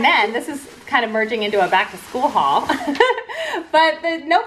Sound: laughs

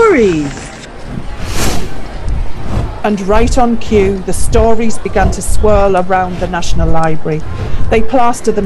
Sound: sound of papers flapping; swirling and flapping

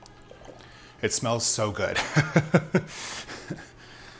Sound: laughs

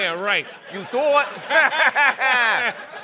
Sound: brooklyn accent

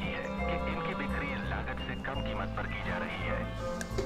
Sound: news playing on Radio

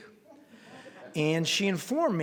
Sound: scattered laughter

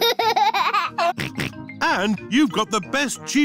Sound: laughs and snorts

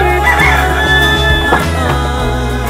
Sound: rooster crowing

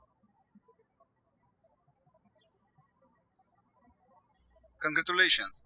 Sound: birds chirping

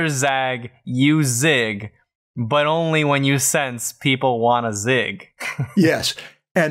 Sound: chuckles

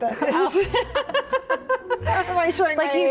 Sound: both laughing

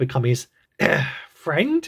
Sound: ahem

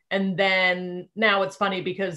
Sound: none

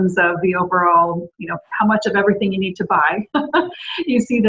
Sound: laughs

